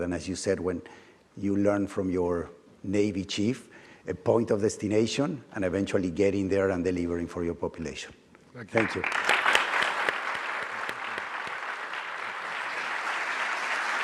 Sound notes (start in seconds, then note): 8.7 audience applauding